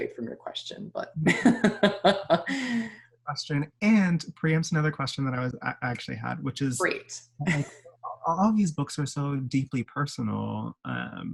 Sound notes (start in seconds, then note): 1.2 laughs